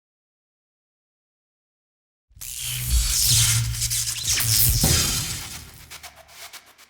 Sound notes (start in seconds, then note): 2.4 zap